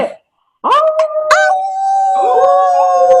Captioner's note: howling